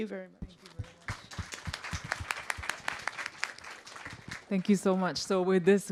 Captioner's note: applause